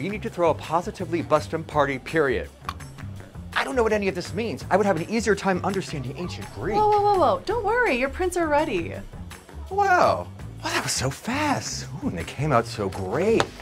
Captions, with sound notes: need to throw a positively-busting party, period." [CLICKS TONGUE] I don't know what any of this means. I would have an easier time understanding ancient Greek. Whoa, whoa, whoa, whoa. Don't worry, your prints are ready. Wow. Well, that was so fast. Ooh, and they came out so great.